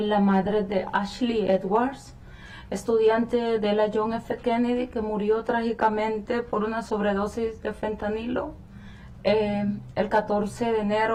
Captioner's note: speaking spanish